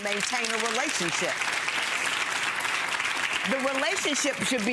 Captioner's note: audience clapping